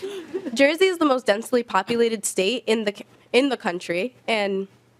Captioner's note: laughing